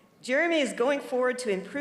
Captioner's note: none